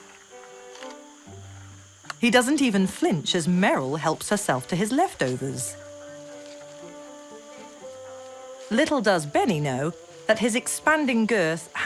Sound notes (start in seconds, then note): none